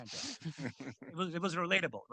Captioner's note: group chuckling